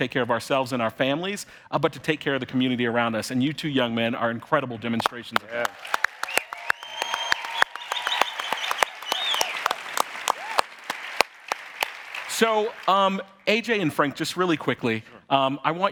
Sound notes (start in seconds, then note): 5.4 audience cheering and applauding